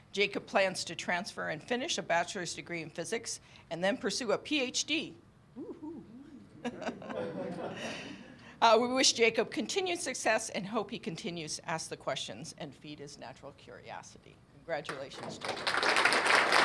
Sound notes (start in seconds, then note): 6.2 laughter